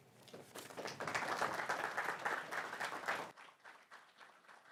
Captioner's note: audience clapping